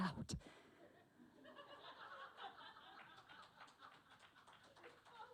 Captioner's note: laughter and applause from audience